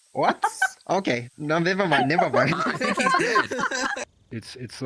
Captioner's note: laughing